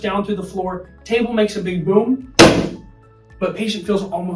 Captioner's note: table thudding